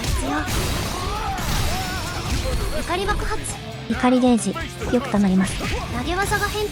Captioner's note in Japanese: 叫び声